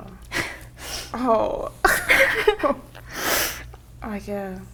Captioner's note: laughing